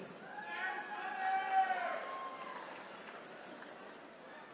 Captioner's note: attendees cheering